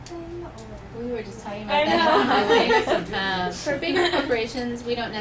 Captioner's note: laughing